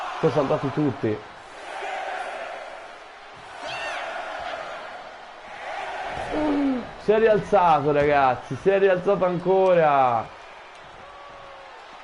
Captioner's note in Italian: Applauso